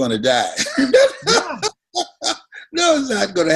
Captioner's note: both laughing